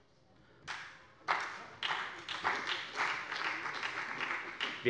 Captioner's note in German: Beifall bei Abgeordneten der FDP und der SPD